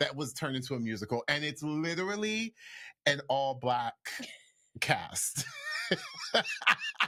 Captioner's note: laughs